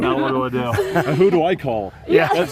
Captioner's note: laughter